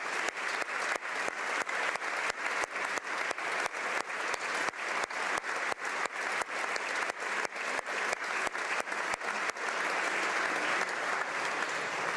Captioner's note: applause